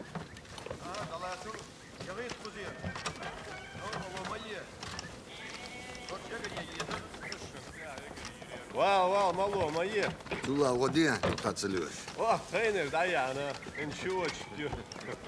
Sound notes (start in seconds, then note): 8.6 Speaking Chechen